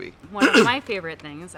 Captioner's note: clears throat